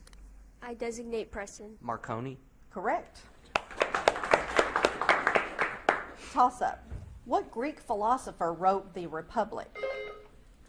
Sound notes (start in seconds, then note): 3.4 audience claps; 9.8 buzzer beeps